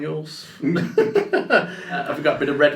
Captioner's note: laugh